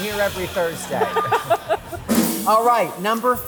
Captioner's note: laughter